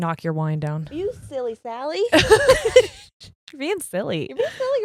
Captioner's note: both laughing